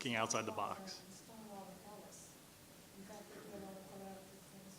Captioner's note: woman speaking faintly